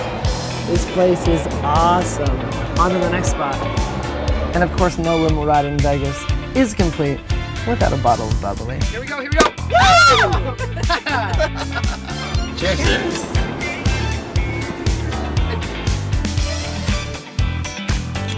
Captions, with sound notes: This place is awesome, on to the next spot. And of course, no limo ride in Vegas, is complete without a bottle of bubbly. - Here we go, here we go. (screams) (laughing) Cheers.